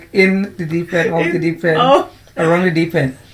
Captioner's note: laughs